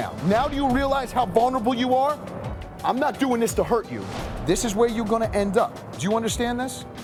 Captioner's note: none